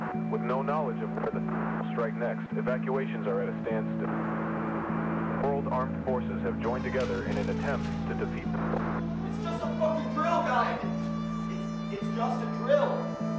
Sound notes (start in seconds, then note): 1.8 static; 6.0 sirens; 8.8 static